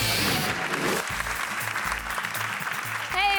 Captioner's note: audience clapping